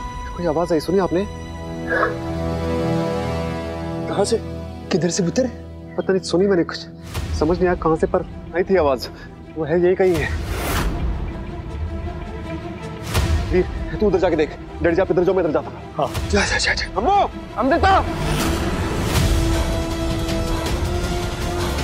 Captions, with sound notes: I heard something. Did you hear that? [exhales] - Where? - Where from, son? I don't know. I heard a sound. I don't know from where, but I heard a noise. She's around. Veer, look there. - Dad, look there. I'll go this way. - Okay. Go. - Amu! - Amrita! [intense music plays]